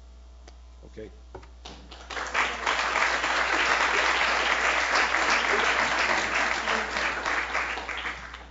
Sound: applause

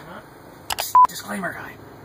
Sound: beeping

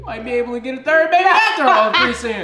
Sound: laughing

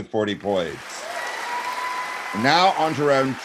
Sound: audience applauding

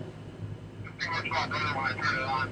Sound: over the walkie-talkie

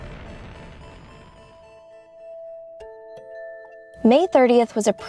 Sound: space flight running

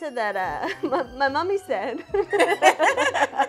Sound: both laugh; laughs

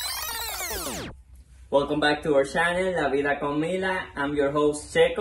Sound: rewind noise

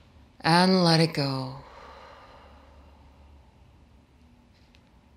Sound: exhaling deeply

